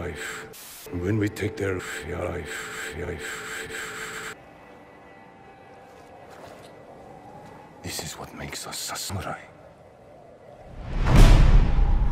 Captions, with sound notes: when we take their fife [sniffles] this is what makes us sasmerai